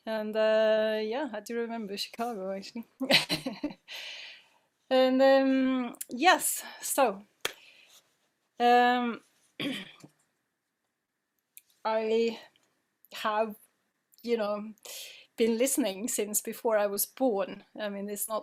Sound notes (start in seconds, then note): 3.0 laughing; 9.6 clears throat